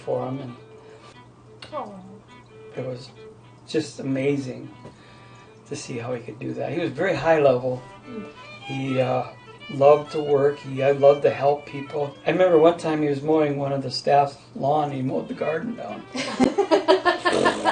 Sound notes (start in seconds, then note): 3.3 voiceover